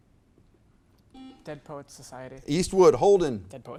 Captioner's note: buzzer beeps